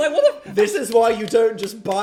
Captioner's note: palms clapping